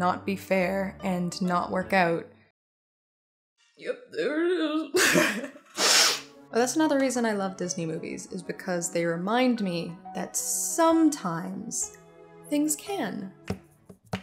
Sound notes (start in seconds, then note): 4.3 crying; 5.0 laughter and sniffles